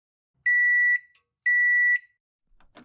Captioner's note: microwave beeping